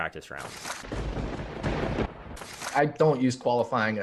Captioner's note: thunder rumbling